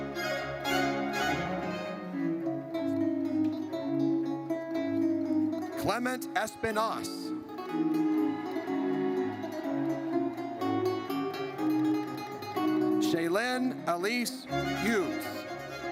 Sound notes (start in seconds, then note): 0.3 triumphant music; 7.6 audience cheers